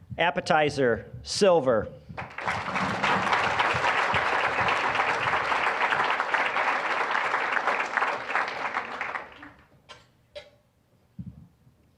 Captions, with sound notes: Appetizer... Silver. (applause)